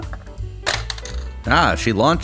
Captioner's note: bonk!